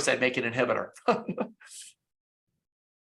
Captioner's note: laughs